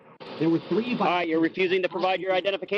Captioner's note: radio voice